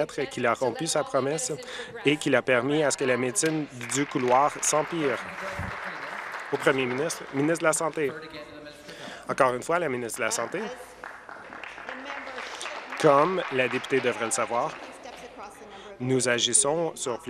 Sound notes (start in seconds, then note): 7.6 applause; 16.7 applause